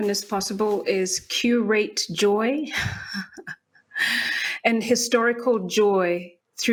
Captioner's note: chuckles